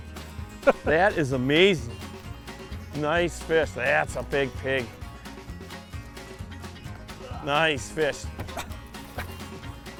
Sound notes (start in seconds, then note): 0.6 laughter; 5.2 plucky banjo music; 7.5 grunts